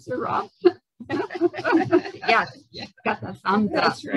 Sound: laughter

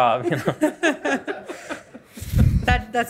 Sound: panelists chuckle

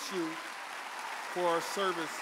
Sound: audience applauding and cheering

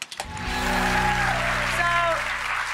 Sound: audience cheers

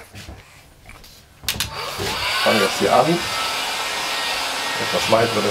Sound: machine noise

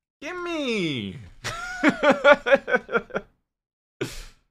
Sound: laughs

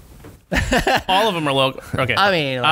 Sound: laughter

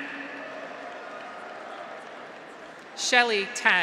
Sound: audience applauds; graduates cheer

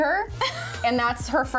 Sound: laughing

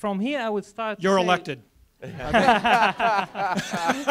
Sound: audience laughs

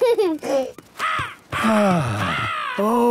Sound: giggling; gull squawking; sighing

